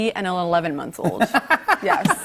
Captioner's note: laughs